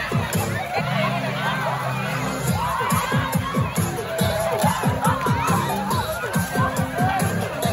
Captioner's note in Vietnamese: Vỗ tay